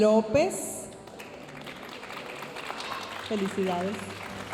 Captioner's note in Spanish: aplausos de la audiencia